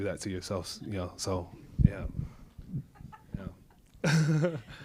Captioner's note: laughs